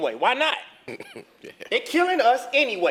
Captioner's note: laugh